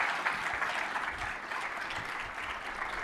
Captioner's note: applause